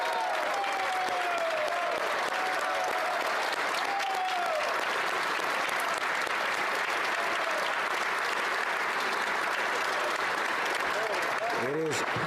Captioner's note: applause